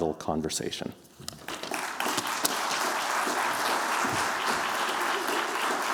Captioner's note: applause